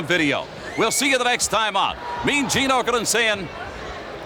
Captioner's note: Billy laughs